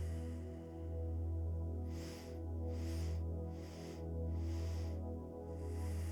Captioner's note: inhales four sharp breaths through the nose; exhales deeply through the nose